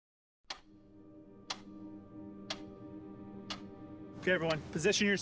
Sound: clock ticking

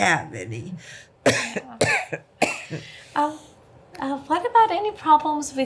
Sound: cough

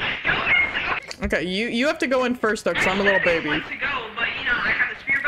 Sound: over Radio; over Radio

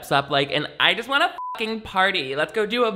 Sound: beep

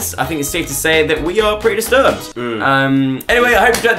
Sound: collective hmm

